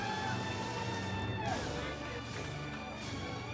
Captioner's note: audience cheers